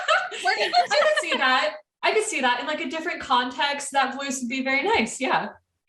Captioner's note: laughter